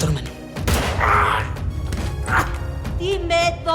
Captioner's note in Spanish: Disparo; Gritos